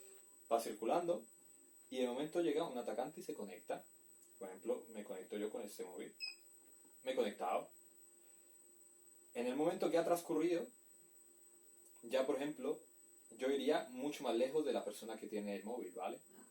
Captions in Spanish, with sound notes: Vamos circulando y de momento llega un atacante y se conecta por ejemplo con este móvil (beep) me he conectado en el tiempo que ha transcurrido ya me habria alejado mucho de la persona que tiene el móvil